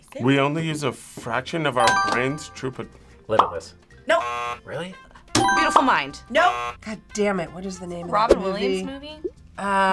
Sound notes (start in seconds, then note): 4.1 buzzer; 4.1 buzzer rings; 6.3 buzzer